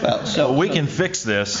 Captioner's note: laughter